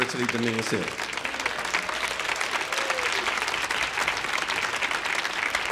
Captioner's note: audience applauding